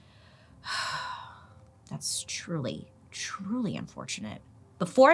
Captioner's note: sighs